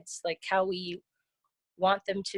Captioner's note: none